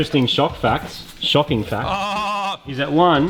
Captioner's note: pretends to laugh